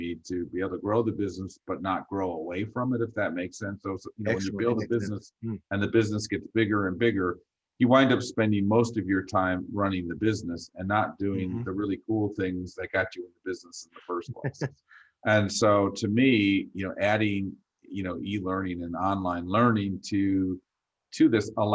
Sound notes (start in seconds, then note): 14.2 chuckles